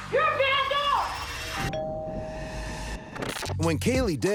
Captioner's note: doorbell rings